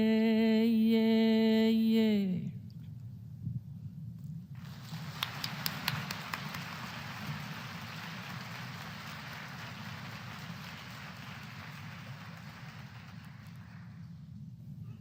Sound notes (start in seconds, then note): 4.5 applause